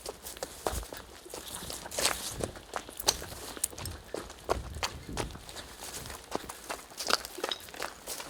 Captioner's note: running footsteps